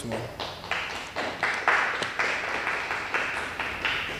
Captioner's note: crowd clapping